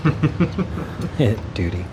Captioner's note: laughing